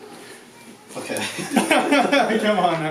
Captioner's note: laughing